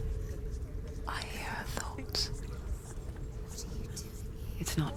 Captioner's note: whisper